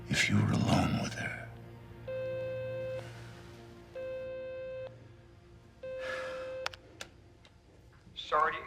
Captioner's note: phone beeping